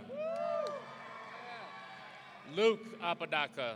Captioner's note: audience cheering